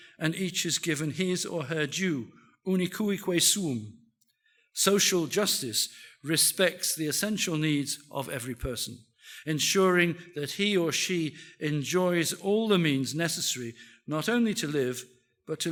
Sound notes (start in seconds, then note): 3.0 speaks in foreign language